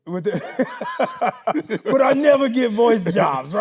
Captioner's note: Anthony laughing